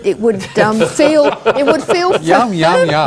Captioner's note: laughter